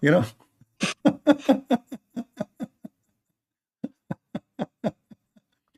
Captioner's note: Ketawa